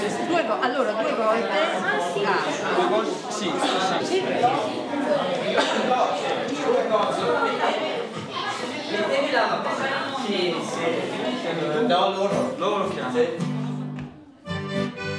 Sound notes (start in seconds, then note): 6.3 indistinct chatter; 14.5 music and indistinct chatter